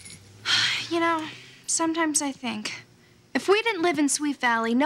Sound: sighs

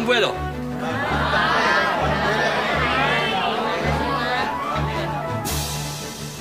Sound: indistinct chattering

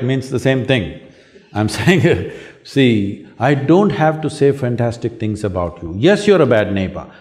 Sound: laughs

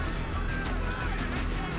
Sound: shouting continues

